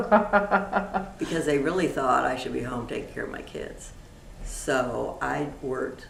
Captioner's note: laughter